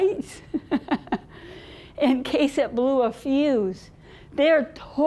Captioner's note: laughing